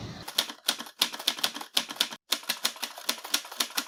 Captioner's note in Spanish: Sonido de máquina de escribir